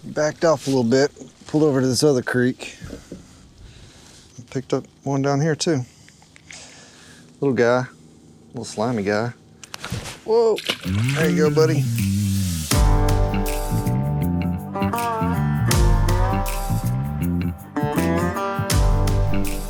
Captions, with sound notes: Backed off a little bit. Pulled over to this other creek. Picked up one down here too. Little guy, little slimy guy. Whoa! (water splash) There you go, buddy. (upbeat funky music)